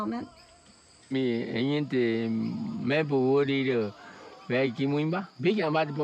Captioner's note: speaking in foreign language